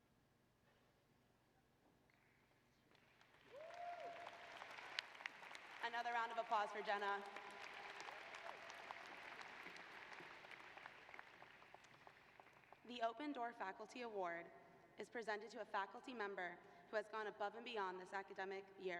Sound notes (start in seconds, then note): 7.3 applause